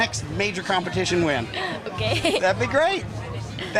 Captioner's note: laughs